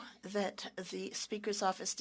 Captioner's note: speaking French